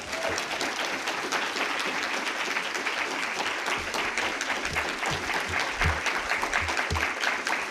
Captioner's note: applause